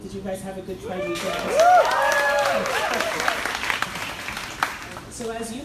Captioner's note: crowd applauding drowns out speaker